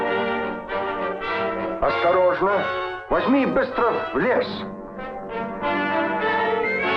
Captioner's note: general speaking in Russian